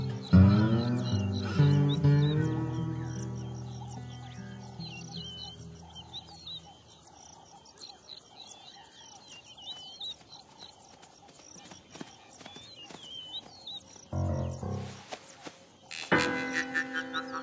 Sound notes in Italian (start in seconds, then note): 0.0 musica strumentale; 4.0 cinguettii; 14.1 musica tensiva